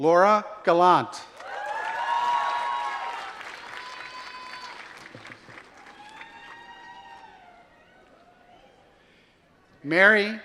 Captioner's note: applause